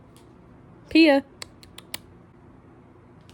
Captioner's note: click